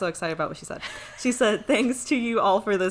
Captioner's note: laughs